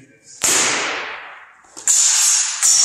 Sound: sword smash

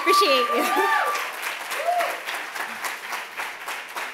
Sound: clapping

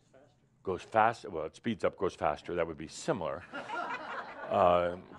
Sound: laughter

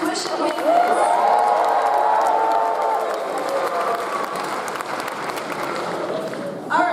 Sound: audience applauds; audience cheers

